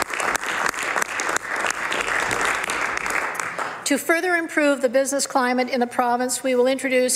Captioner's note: some Applause